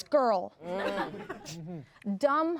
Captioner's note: everyone laughs